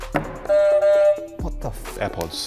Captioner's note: buzzer buzzes